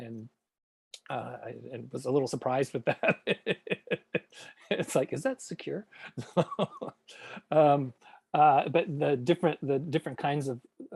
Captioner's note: laughs